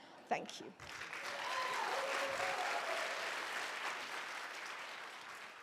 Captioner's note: applause